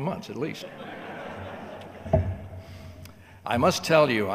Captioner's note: audience laughing